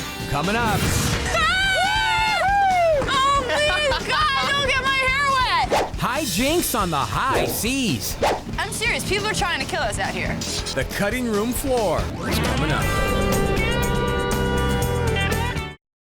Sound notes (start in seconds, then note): 0.1 upbeat music; 1.3 cheering; 1.3 screaming; 13.2 upbeat music